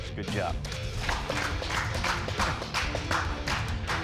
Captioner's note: applause